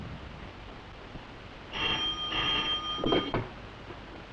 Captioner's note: phone rings